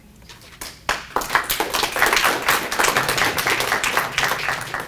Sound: audience applauds

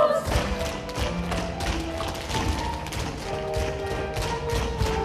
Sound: tapping from shoes

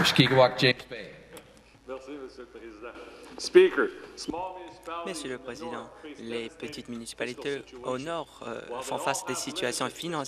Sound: applause

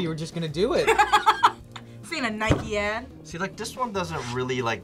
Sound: laughs

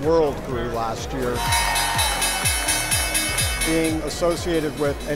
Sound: bell rings

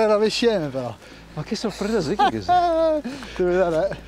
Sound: laughter

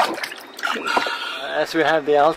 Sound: pffffff

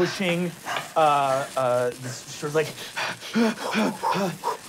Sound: panting and gasping

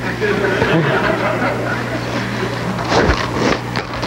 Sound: audience laughs

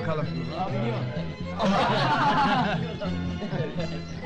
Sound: laughter

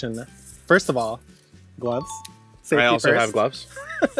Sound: chime tinkling

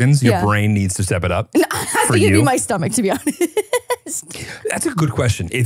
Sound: laughing

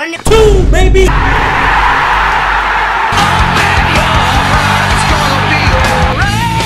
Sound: crowd Cheering with Happiness

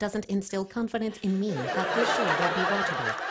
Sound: laughter

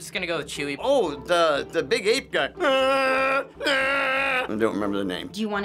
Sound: imitating Chewbacca

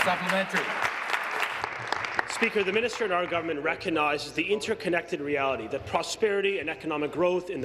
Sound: applause

